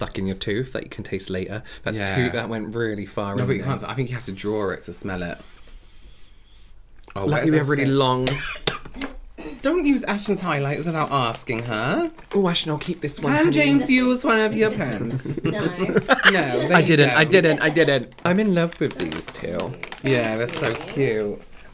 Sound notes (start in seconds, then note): 8.4 choking On Spit, Probably